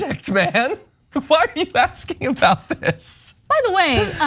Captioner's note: laugh